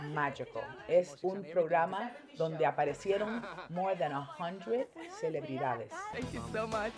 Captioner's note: speaking Spanish